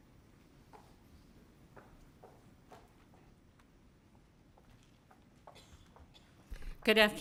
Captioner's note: footsteps